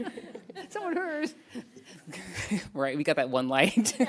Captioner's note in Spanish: risas